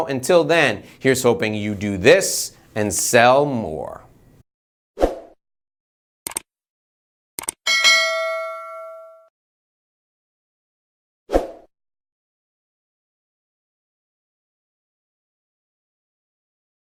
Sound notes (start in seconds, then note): 5.1 whooshes; 7.4 clicks; 7.6 bell rings; 11.3 whooshes